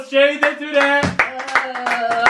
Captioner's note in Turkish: Alkışlar